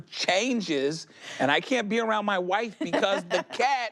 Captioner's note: laughs